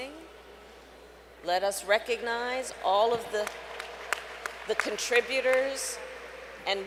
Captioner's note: applause